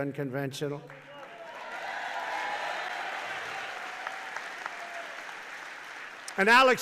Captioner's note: applause